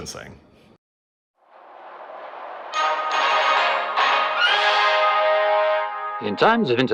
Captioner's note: newsreel audio